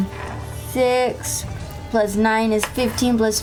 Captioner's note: none